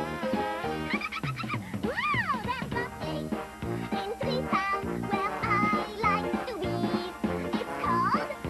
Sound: laughs

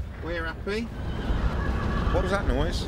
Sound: horse whinnies

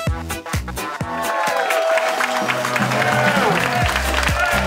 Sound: crowd cheering

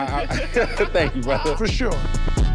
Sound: laughing amusingly

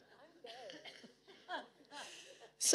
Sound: audience laughing; speaking faintly; audience laughing

